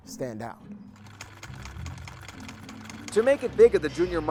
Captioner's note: sewing machine clicks